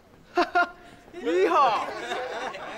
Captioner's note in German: lacht